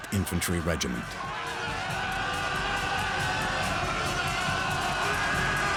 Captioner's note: men shouting